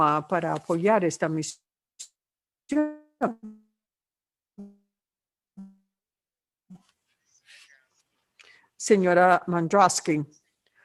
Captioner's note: se corta el audio